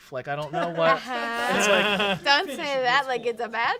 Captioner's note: everyone laughs